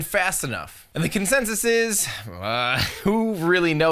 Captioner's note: gasps